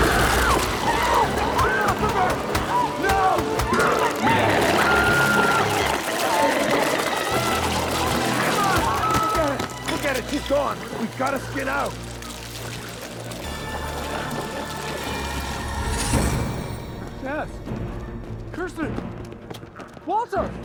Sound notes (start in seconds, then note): 0.0 Chalee screaming; 5.0 glowzies growling; 14.3 dramatic music continues